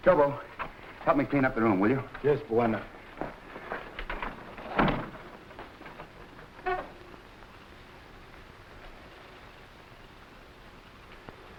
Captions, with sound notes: Tobo, help me clean up the room, will you? - Yes, Bwana. (footsteps echoing) (door slamming)